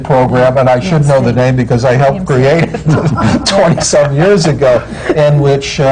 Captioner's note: laughs